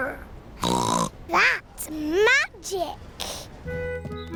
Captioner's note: snorts